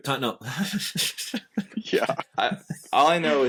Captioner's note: laughter